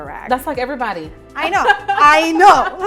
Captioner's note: laughs